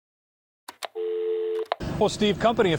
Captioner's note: click; dial tone